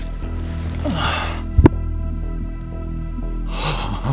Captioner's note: grunts